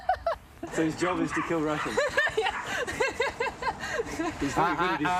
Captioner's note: laughs